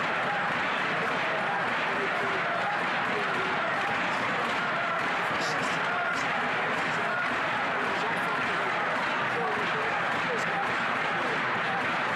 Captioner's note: chanting